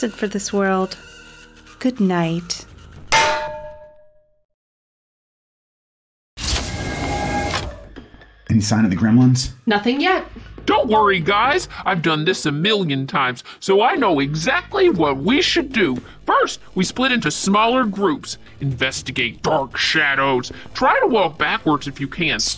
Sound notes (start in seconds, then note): 3.1 bang!